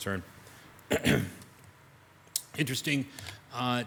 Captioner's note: clears throat